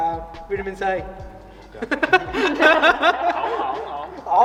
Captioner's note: laughs